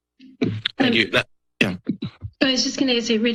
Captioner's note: microphone thuds